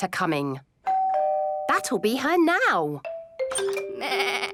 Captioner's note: doorbell rings